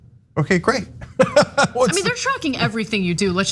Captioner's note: laugh